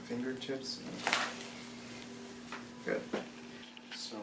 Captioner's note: cracking